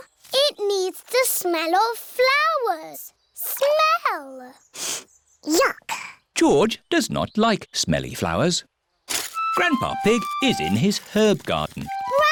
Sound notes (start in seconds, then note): 4.7 sniffs